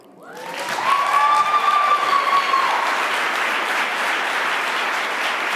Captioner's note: audience cheering